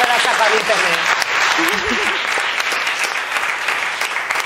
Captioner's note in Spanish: Aplausos